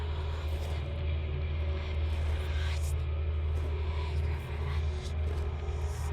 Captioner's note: ghostly whispering; suspenseful music